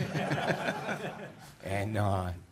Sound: audience laughs

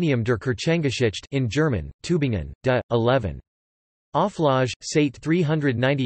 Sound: in German

